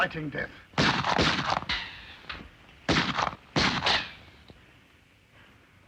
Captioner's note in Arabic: طلقات نارية